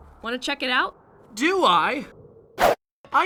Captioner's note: excited